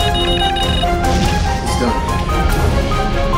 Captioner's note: blasting